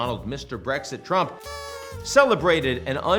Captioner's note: party horn honks